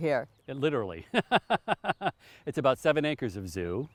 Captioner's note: chuckling